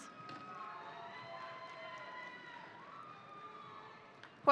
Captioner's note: audience cheering